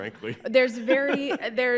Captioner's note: laughs